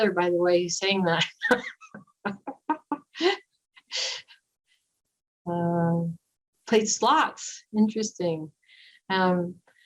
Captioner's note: laughter